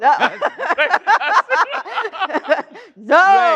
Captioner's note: laughter